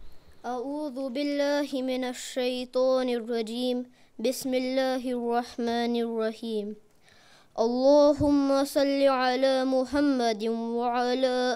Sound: Arabic

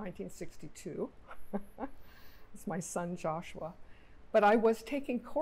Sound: laughing

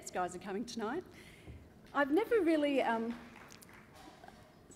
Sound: applause

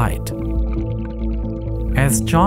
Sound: water burbling

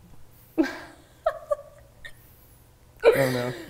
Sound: laughing

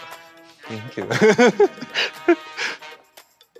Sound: laughs; upbeat music continues

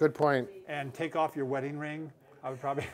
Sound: chuckle

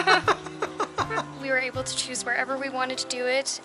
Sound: laughter

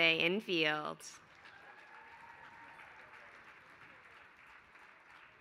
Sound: applause

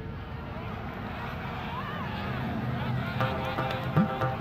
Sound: far-away shouts of a crowd

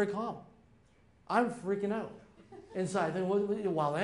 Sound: light giggles

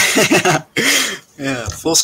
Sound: both laughing

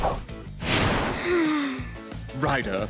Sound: sighing

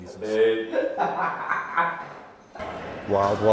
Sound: laughs

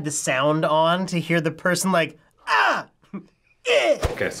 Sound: yells

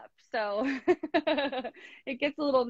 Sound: laughing

